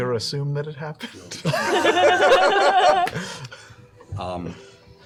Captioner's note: laughter